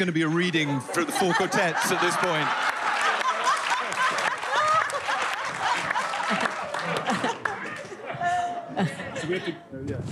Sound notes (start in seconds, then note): 3.5 laughter and applause